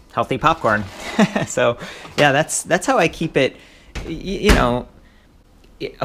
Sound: chuckles

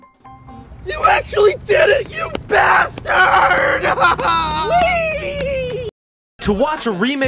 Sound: cries

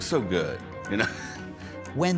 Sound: laughs

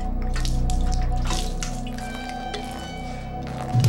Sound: liquid pouring

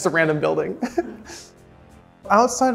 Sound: chuckling

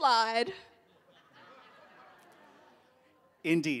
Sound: audience laughing

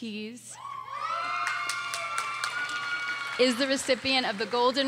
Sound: audience cheers and applauds

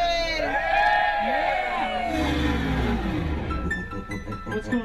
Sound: all cheer

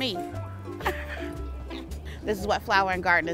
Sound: laughing

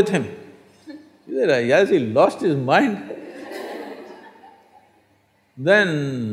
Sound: laughter

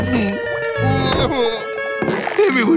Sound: sobbing

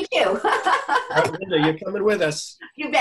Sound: laughs

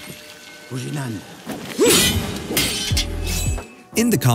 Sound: non-english speech; swords clashing

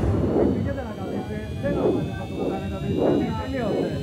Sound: thunder rumbles; airplane engine rising; electronic warbling quickens

